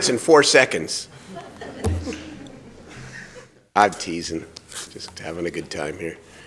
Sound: laughter

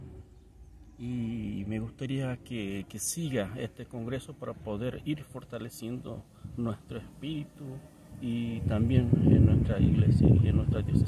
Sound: Spanish

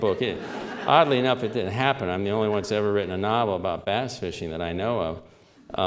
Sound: laughter

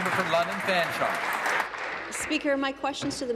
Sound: applause

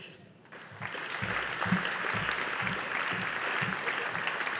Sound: audience applauding

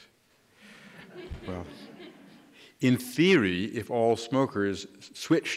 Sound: laughter

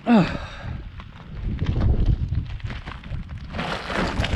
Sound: grunting; rocks crunching

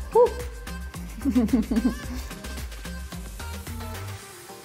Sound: chuckles

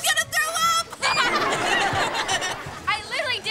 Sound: laughing

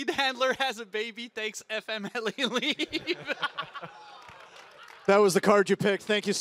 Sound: laughs

